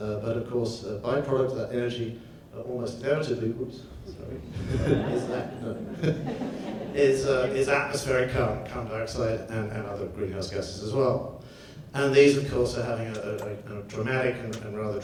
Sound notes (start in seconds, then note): 4.2 laughs; 4.2 audience laughs